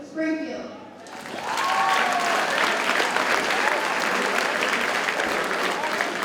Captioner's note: audience cheers and applauds